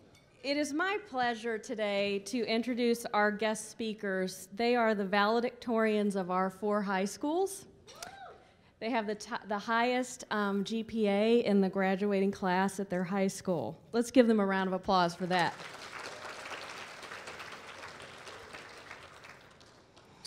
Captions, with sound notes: It is my pleasure today to introduce our guest speakers. They are the valedictorians of our four high schools. They have the highest GPA in the graduating class at their high school. Let's give them a round of applause for that. (applause)